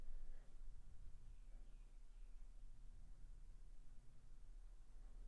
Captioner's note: bird chirping